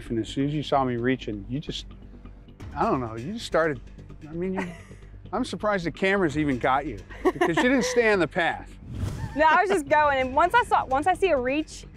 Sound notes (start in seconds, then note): 4.5 laughs; 7.1 laughs